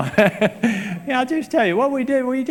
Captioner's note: laughs